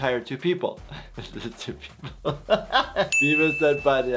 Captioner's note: laughing